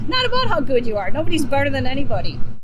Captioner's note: chuckles